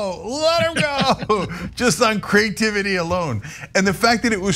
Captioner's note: laugh